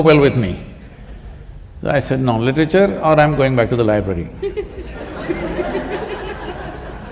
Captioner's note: few laugh